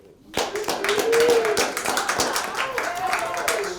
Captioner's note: applause